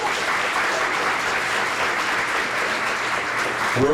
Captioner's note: applause